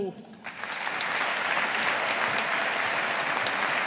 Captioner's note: audience applauding